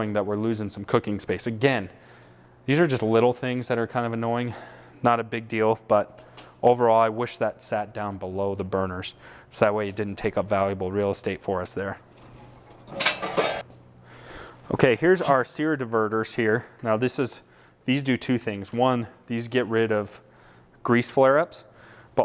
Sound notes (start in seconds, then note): 12.1 clanging